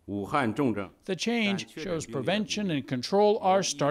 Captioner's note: speaking foreign language